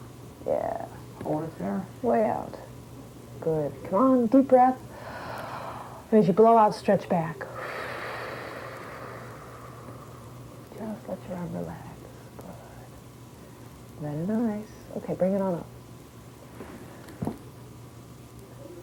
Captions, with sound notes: Yeah, way out. Good. Come on, deep breath. (inhales) As you blow out stretch back. (exhales) Just let your arm relax. Good. Okay bring it on up.